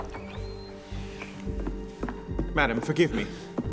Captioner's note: door creaks